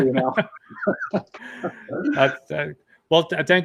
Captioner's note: laughs